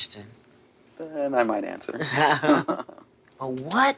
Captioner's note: both laugh